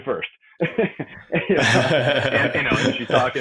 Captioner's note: both laughing